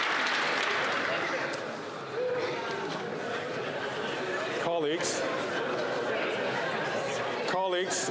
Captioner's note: applause